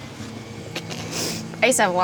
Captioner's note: Glynis sniffles